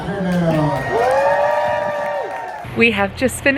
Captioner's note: audience cheers